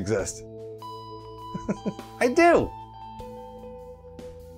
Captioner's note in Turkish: kıkırdar